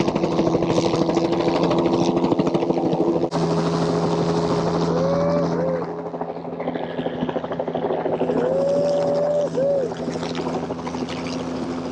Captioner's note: laughs